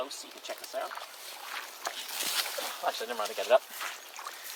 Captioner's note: sploshing and reed tearing